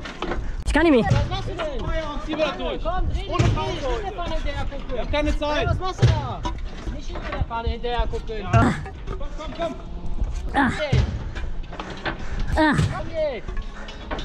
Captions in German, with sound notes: Isch kann ni mi! - Junge! Was machst du denn? Bis zum Feierabend ziehen wir das so durch! Ohne Pause, heute! - Komm, dreh dich! Dreh dich! Nicht der Pfanne hinterher gucken! Wir haben keine Zeit! - Ey, was macht du da?! Nicht immer der Pfanne hinterhergucken! Komm komm komm! [STÖHN] - Komm jetzt! [STÖHN] - Komm jetzt!